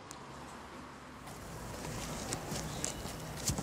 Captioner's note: muffled traffic noise